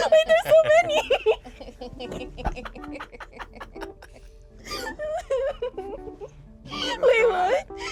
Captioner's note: group laughs